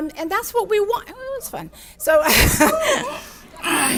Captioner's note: laughs